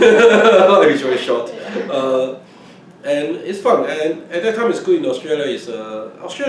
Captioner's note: laughs